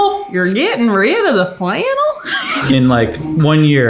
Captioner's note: laughs